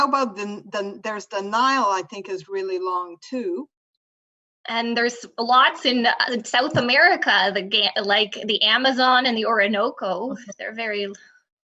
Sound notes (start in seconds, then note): none